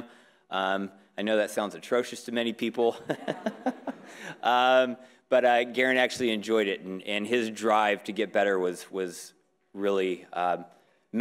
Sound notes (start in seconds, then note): 3.1 laughing; 3.1 audience agreeing